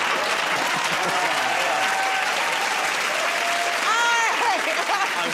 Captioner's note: cheering and applause; laughter; laughs